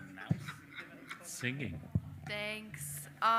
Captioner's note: all laugh